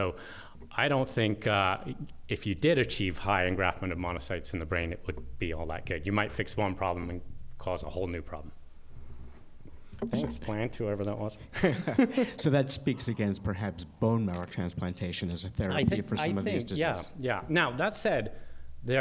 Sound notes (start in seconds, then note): 11.5 laughter